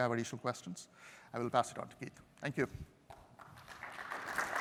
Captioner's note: applause